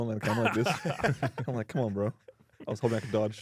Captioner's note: laughs